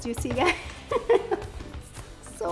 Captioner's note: laughs